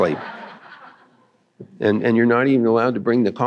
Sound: laughter

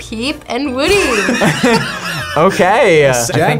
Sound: group laughs

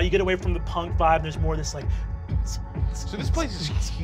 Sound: imitates rave music

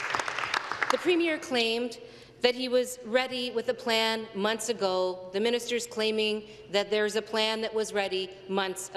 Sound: some Applause

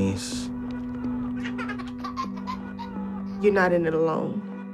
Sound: laughter

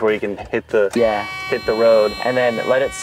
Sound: ignition whining

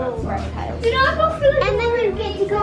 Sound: high pitched talking

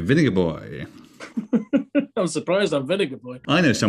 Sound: chuckling

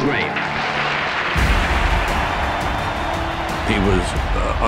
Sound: applause

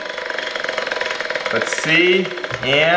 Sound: wheel spinning

